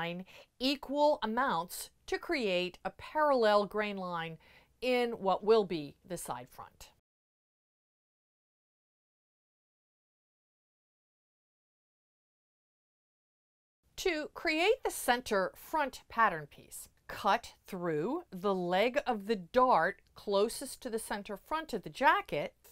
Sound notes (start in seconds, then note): 6.9 no Sound Present